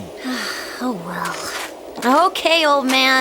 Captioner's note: sigh